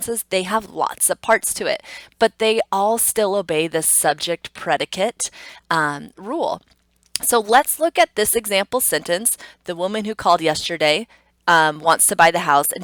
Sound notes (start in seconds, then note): none